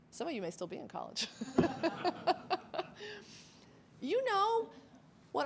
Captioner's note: laughs